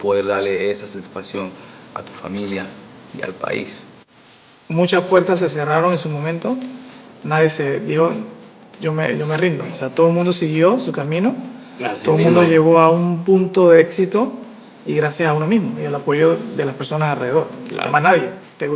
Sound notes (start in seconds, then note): 5.0 speaking Spanish